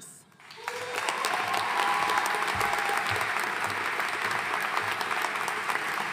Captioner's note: audience cheering and applauding